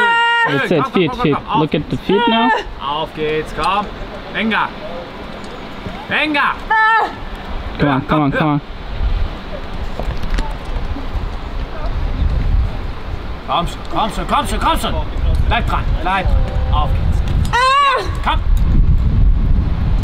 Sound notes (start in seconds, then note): 0.0 yelling; 2.7 speaking foreign language; 6.6 yelps; 13.5 speaking foreign language